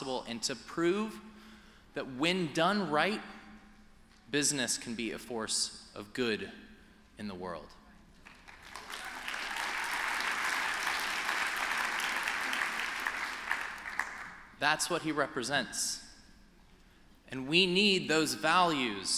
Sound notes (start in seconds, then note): 8.2 applause